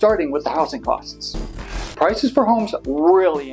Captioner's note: static